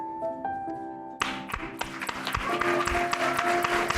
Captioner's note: applause